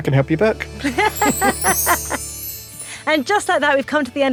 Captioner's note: magical music; both laugh